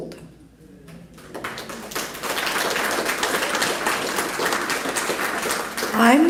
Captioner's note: applause